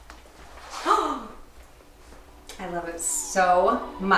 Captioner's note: gasping